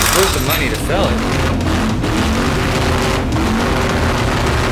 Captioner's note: engine revving